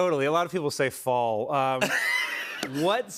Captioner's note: laughter